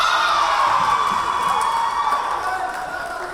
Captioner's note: cheering; whistle blowing; yelling